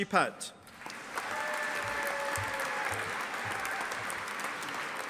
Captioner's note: audience applauding